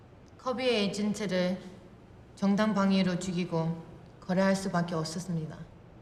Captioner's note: speaking Korean